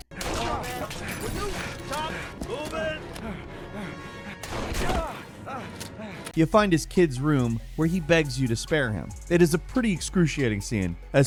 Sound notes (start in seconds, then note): 0.1 gun firing; 4.4 gun firing